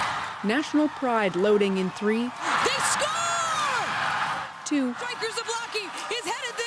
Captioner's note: cheers and Applause